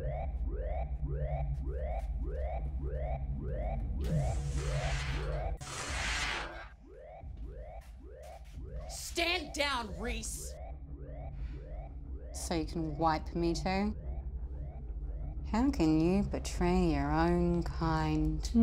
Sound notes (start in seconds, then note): 4.0 door whooshes